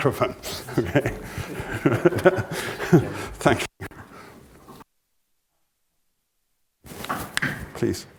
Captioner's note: laugh